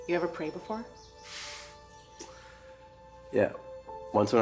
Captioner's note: laughs